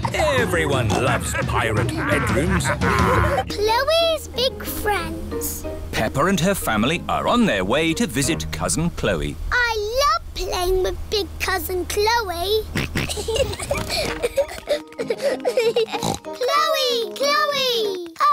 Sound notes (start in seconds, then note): 0.9 laughter; 12.8 kids giggling; 13.4 snorts